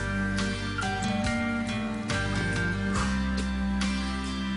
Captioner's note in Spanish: Timbre de la puerta